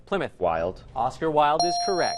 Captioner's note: ding